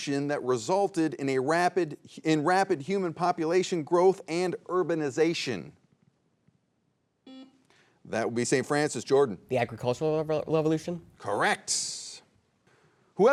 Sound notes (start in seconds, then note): 7.3 buzzer beeps